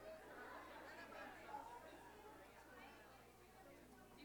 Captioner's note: chatter